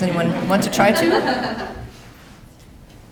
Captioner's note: laughter